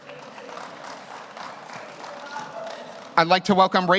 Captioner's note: audience applauds